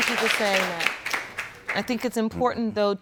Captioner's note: audience applauds